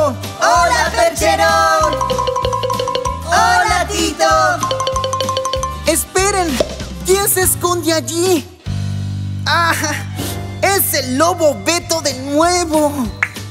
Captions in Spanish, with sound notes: ¡Hola Percherón! (Sonido de campana) ¡Hola Tito! (Sonido de campana) ¡Esperen! ¿Quién se esconde allí? ¡Ah jaja! ¡Es el lobo Beto! de nuevo